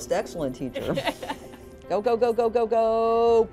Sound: laughing

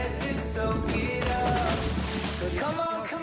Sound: water splashing

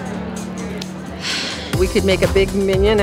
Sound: sighs

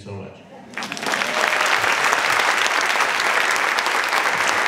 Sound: audience clapping

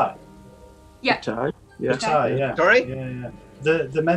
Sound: others agreeing

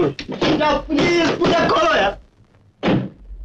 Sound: door knocking

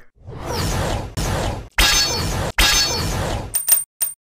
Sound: More Beyblade sounds

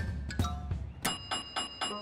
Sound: dinging

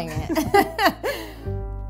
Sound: laughing

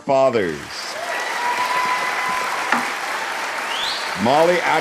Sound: audience applauding

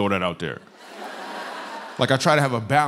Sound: laughter

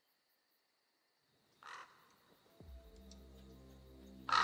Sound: bird squawking

